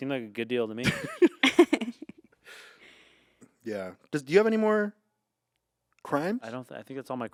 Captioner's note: laughs